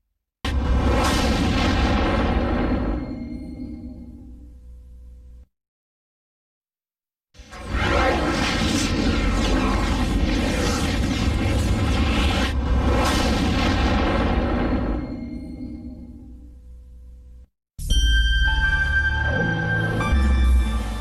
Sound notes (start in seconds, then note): 0.4 snippeted dramatic sounds; 7.4 dramatic twister and helicopter sounds; 18.4 dramatic music playing